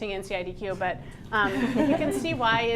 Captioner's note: laughter